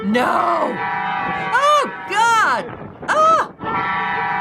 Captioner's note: truck beeping horn; truck beeping horn